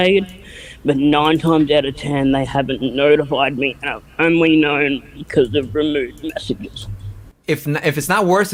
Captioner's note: chokes up